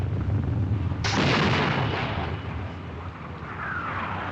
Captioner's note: explosions Continue